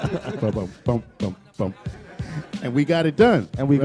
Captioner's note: laughter